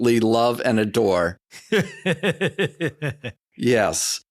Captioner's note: laughs